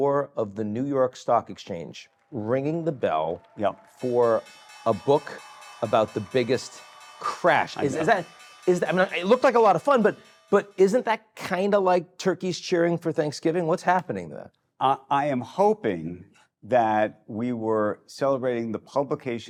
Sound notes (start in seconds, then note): 4.6 bell ringing